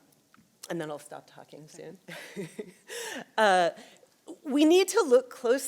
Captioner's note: chuckles